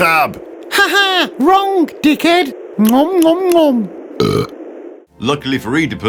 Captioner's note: gobble gobble gobble burp